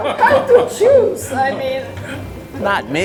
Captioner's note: laughter